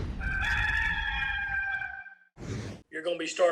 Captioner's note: rooster crowing